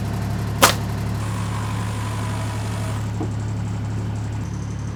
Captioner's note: pneumatic hammer popping; saw whirring; motor humming